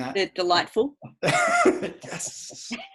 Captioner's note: laughs